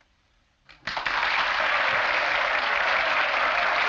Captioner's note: crowd applauds